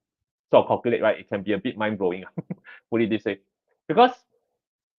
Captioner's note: laughs